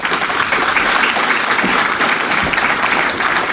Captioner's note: applause